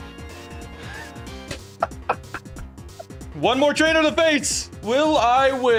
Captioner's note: laughing